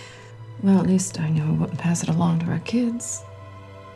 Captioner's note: none